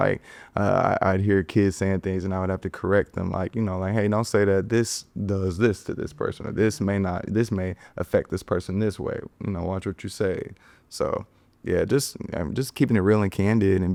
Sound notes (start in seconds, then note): none